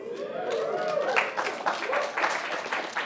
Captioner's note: cheering